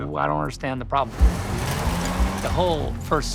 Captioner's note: car revving; can clattering